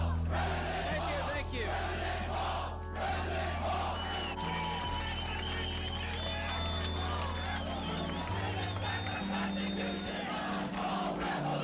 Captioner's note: Chanting Ron Paul Revolution Bring Us Back Our Constitution!